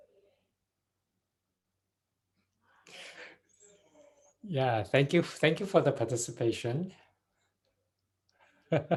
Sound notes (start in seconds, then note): 0.0 silence continues